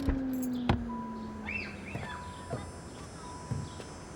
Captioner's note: car beeps